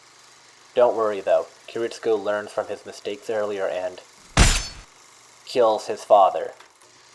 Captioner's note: gun shot